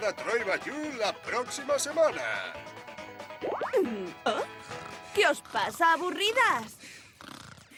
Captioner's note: snoring